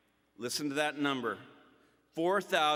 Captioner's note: none